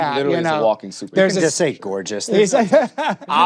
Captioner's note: laughs